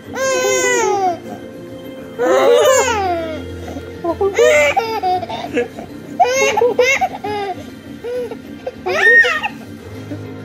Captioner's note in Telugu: నవ్వు